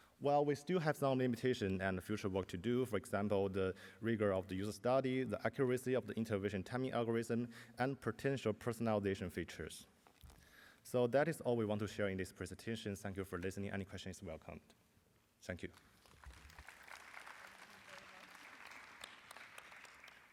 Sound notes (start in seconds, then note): 15.7 applause